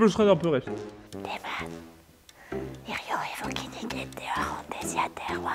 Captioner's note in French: en chuchotant